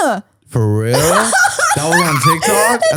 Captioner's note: laughs